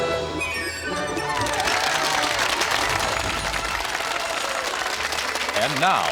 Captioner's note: audience applauding